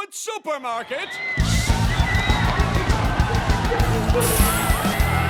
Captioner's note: people screaming